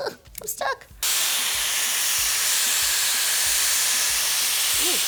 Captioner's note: dryer whirs